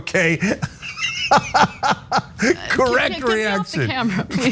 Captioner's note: laugh